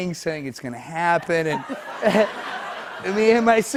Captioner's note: laughter